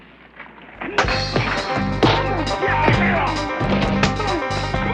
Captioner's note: all grunting